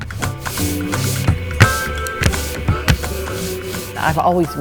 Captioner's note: paint brush strokes